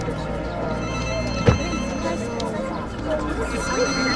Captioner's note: phone rings